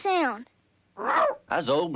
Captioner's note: Arrow barks